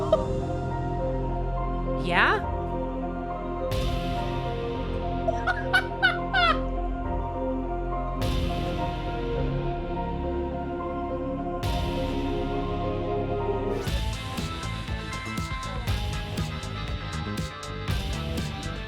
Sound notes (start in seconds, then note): 0.6 laughing; 3.7 drum hit; 5.3 Penny laughs at Stanley descending